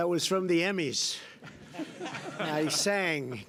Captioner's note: laughter